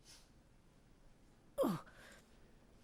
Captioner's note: groan